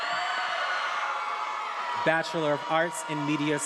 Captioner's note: attendees applauding and cheering